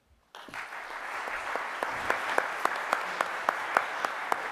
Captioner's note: audience applauding